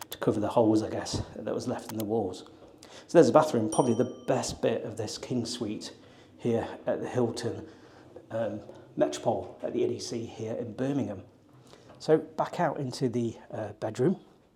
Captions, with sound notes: to cover the holes, I guess, (mouse clicking) that was left in the walls. So there's the bathroom, (bell ringing) probably the best bit of this king suite here at the Hilton Metropol at the NDC here in Birmingham. So back out into the bedroom.